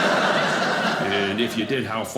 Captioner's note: audience laughing